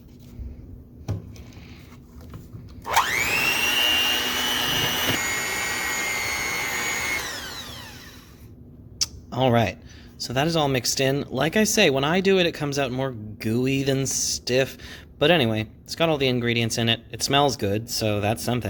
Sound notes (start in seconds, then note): 1.3 mixing noises